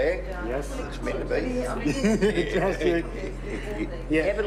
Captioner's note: chuckles; laughs